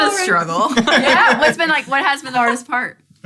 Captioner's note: laughter